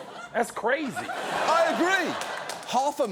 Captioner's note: studio audience laughs